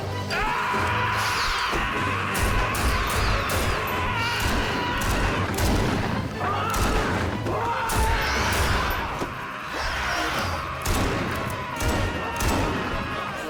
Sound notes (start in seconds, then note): 2.5 guns firing